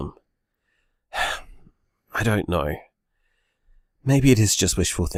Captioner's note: sighs